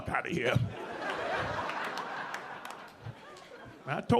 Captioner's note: audience laughing